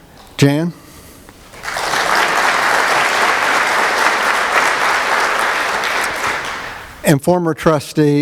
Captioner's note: applause